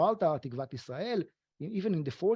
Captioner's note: speaking foreign language